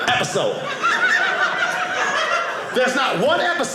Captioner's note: audience laughing